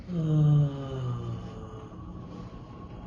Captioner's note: sighs